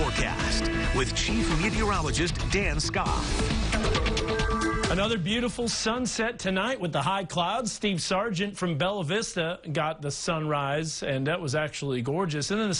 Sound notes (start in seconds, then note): 4.8 skof